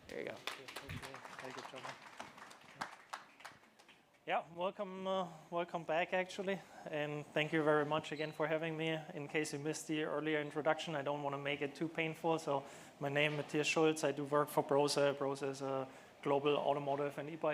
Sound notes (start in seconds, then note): 4.7 applause